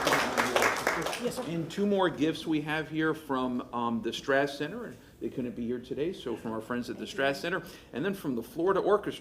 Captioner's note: applause